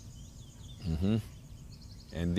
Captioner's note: Monte hums